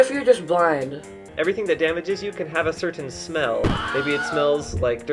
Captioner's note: Wilhelm scream